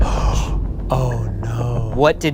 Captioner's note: gasps